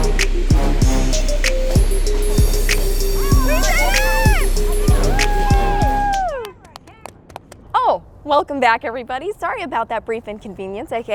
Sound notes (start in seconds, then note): 2.3 train engine roaring; 4.8 screams